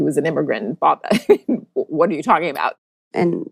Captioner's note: laughs